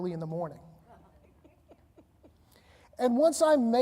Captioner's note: panelists laughing